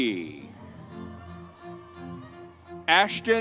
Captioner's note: upbeat music continues; audience cheers